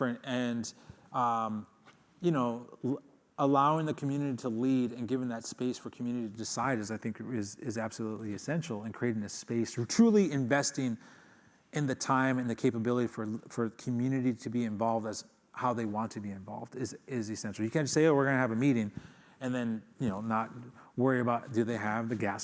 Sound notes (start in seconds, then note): none